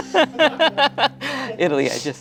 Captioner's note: laughs